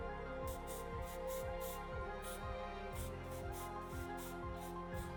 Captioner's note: spray whooshing